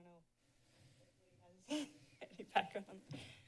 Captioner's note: chuckles